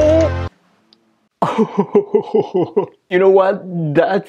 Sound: laughs

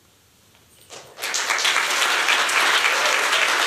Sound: applause

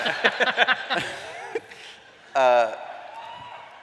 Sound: laughter

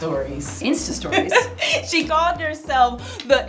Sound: chuckles

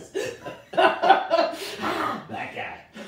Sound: both laughing

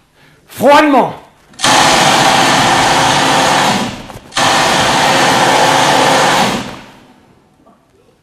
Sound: shooting sound

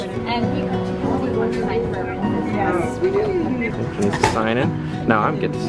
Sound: chattering

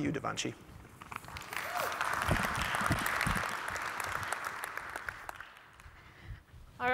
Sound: applause

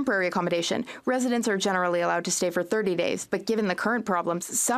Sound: speaking French

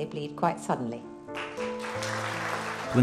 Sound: applause

